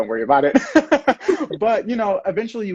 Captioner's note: laughing